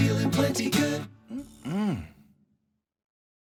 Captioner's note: laughs